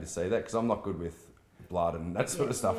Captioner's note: chuckles